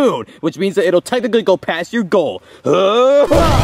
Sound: grunts

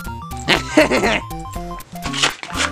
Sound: snickers

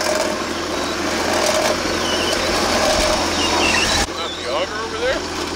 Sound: machine whirring

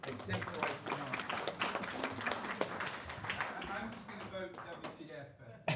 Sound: drowned out by audience clapping

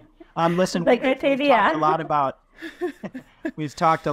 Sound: chuckles

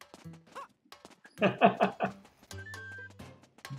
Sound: laughs

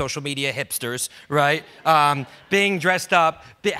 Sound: audience laughs

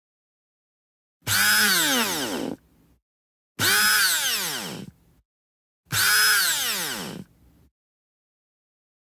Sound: sound of drill

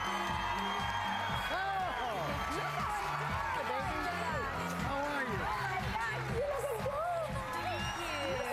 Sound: cheers and applause

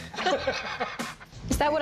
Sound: laughs

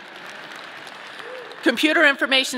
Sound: audience clapping

